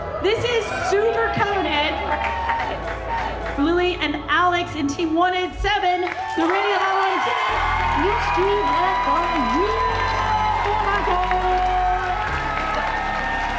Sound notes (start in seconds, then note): 5.9 cheering; 9.2 loud cheering and applause